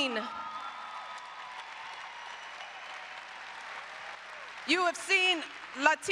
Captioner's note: applause